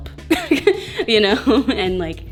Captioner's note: laughs